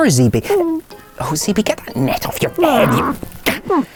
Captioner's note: groans